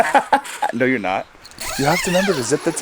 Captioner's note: laughing amusingly; zipper zipping rapidly